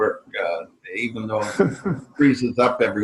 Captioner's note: laughing